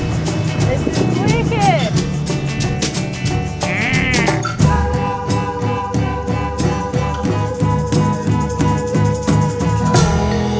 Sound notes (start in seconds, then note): 3.6 bird squawks; 4.9 vocalising